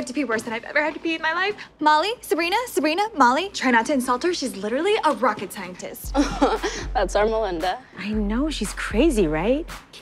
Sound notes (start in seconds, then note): 6.1 laughs